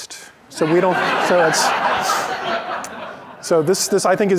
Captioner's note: laughter